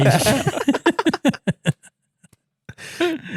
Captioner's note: laughing